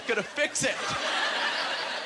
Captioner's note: audience laughter